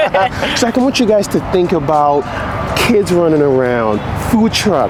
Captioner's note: laughing